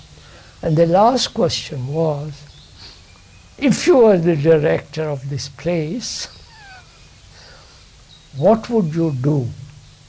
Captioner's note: laughs